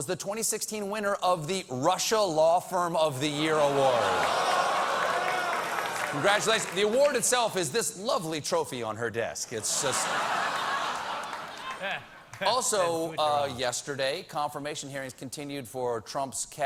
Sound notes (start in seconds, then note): 7.0 audience reacts